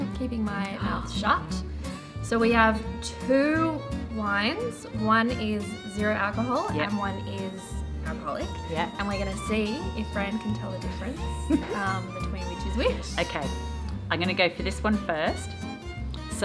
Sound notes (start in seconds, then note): 11.4 laughing